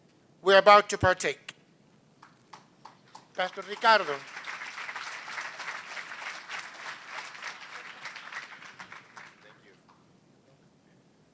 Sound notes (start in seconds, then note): 4.2 applause